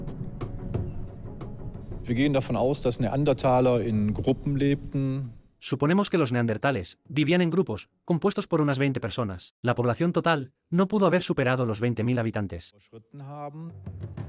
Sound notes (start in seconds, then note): 2.1 German spoken audio